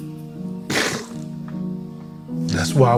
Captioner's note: crying